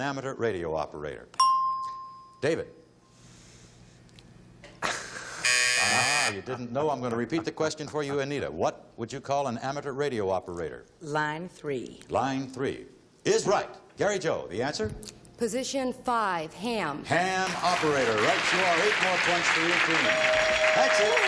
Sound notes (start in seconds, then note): 1.4 ding; 5.3 buzzer